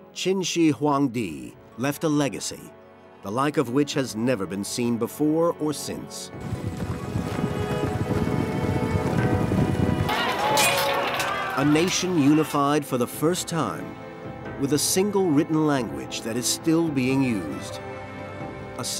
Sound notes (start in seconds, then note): 6.4 horse hooves pounding; 10.0 soldiers yelling; 10.1 weapons clanking